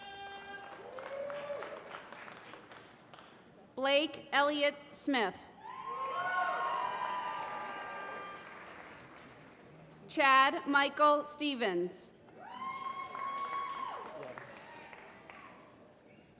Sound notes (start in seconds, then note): 0.0 applause; 5.8 applause; 12.4 applause